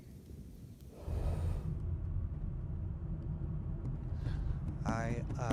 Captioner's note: car engine hums